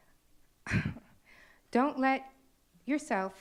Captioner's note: chuckles